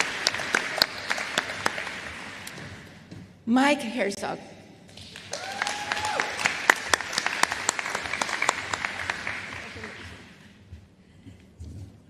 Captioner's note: applause